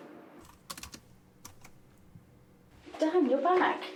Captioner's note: keys clicking